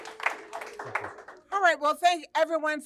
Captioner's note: audience Applauding